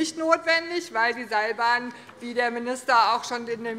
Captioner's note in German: none